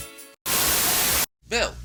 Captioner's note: Static